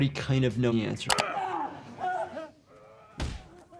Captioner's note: people grunting; object thudding